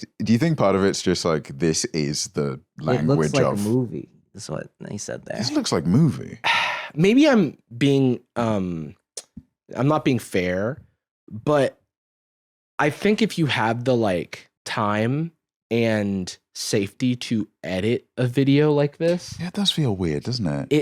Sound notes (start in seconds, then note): 6.4 sighs